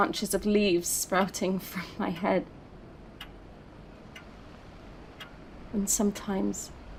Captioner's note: wind rushing quietly